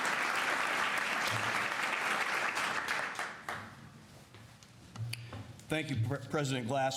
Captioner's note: applause